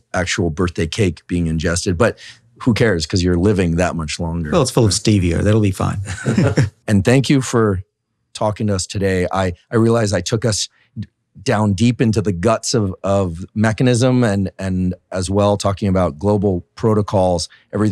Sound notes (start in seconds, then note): 6.0 both chuckle